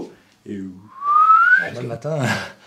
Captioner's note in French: sifflement